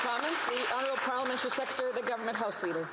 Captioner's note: applause